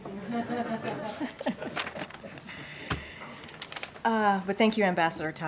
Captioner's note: laughter